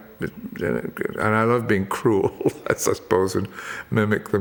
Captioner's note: laughs